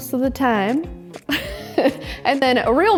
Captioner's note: laughs